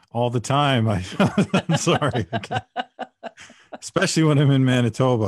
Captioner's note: laughter